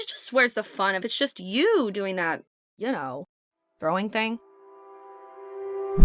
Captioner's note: none